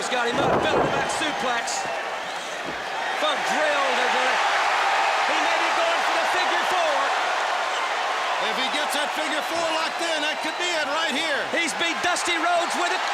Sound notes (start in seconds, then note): 4.0 crowd cheering